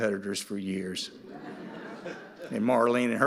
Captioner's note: audience laughing